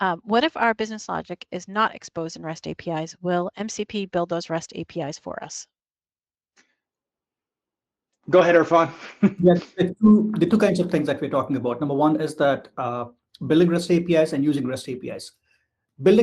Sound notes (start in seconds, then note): 8.4 chuckles